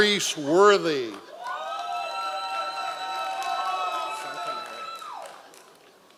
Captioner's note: members of the audience cheering